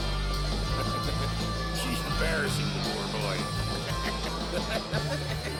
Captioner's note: chuckles; laughs